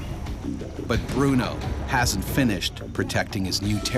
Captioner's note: voiceover